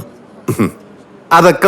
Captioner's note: chuckling